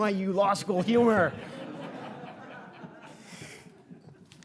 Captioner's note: audience laughing